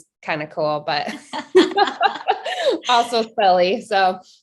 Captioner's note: laughing